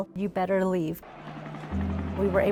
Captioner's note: helicopter, Crowd Walla